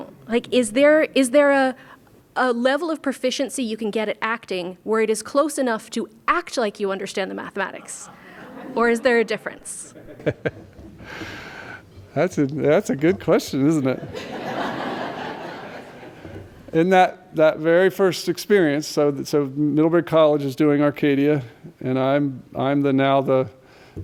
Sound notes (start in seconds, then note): 13.8 laughter